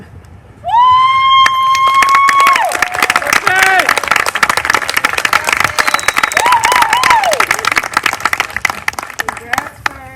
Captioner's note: applause